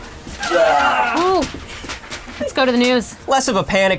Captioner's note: screaming